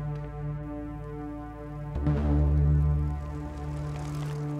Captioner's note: bike rattling